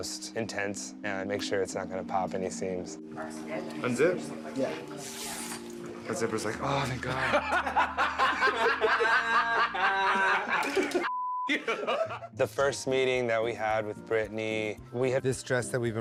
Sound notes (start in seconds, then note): 7.2 laughter